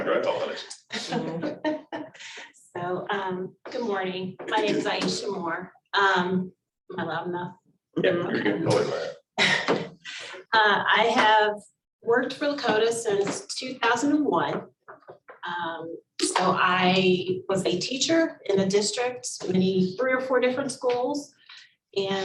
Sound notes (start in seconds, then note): 1.8 laughs; 8.0 board members agreeing